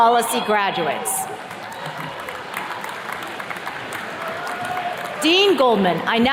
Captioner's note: attendees clapping